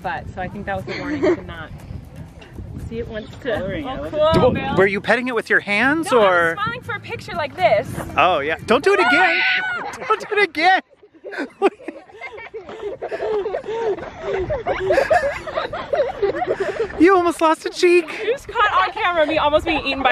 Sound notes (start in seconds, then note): 8.9 screams; 10.1 family laughs